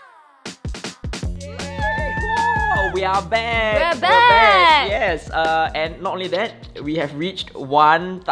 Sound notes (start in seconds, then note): 1.4 cheering